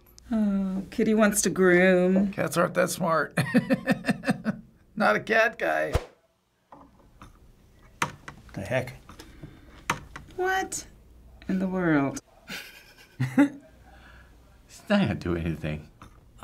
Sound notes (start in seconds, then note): 3.4 chuckles; 12.4 chuckles